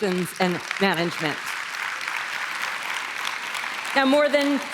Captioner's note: applause